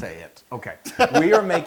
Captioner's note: laugh